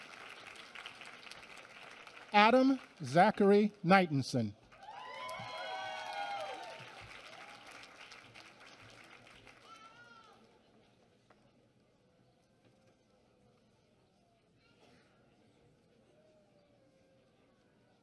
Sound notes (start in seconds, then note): 4.6 applause